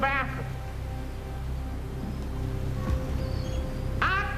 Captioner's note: waves splashing, seagull squawking